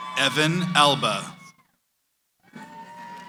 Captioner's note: cheering